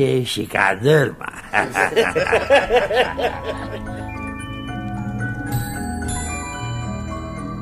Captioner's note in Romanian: Râsete